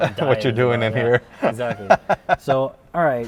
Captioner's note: laughs